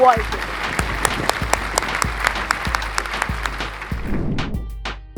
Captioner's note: aplausse